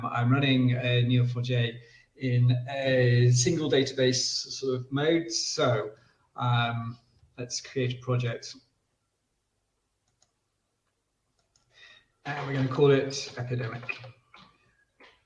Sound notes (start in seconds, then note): 10.0 mouse clicks